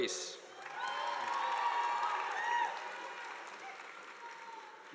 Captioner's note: audience applauding